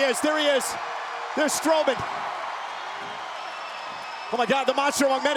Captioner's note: crowd cheering